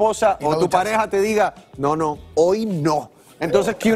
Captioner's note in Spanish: risas